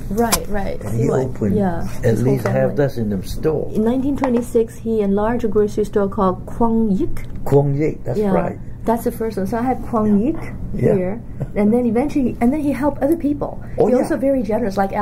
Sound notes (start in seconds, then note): 11.0 laughs